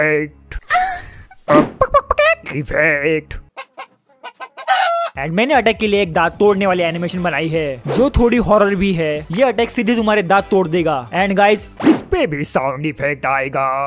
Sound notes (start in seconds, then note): 3.5 chicken noises